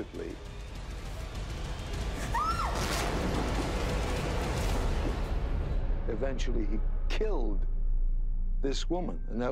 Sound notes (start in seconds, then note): 0.2 suspenseful music; 2.2 screams